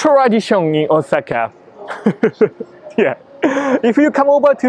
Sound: laughs

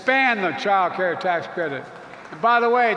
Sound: applause

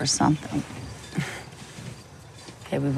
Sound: scoffs

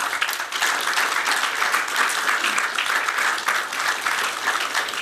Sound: applause

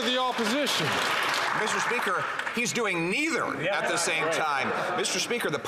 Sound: some Applause

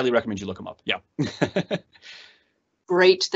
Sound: laughs

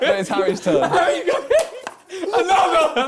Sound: laughs

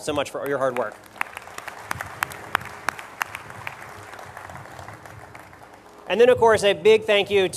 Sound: applause

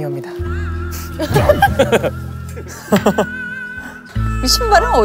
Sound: bursts out laughing

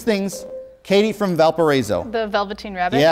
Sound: beeping

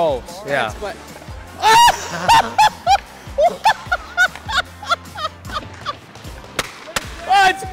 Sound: laughing

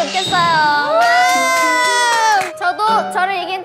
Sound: hoorays

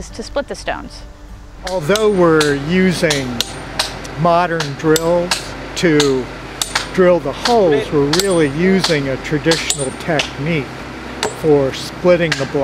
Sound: clinking sound of hammer and nail on stone

